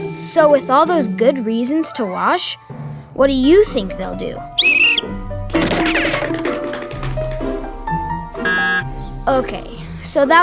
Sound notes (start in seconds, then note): 4.5 whistle; 4.6 cartoonish sound effects; 8.4 crickets chirping; 8.5 fail buzzer sound